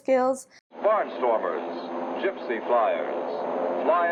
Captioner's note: man On Radio